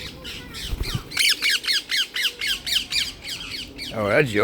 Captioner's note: parrot squawking angrily